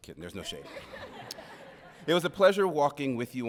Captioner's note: audience laughing